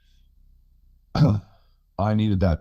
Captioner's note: clears throat